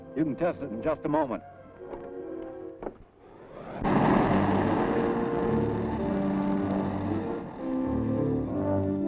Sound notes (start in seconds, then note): 3.4 car engine whirring